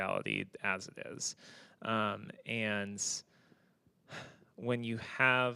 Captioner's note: sighs